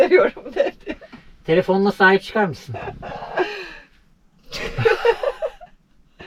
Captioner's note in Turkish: kahkaha